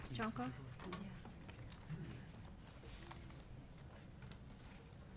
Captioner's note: people chattering